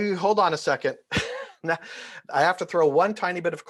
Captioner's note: laughs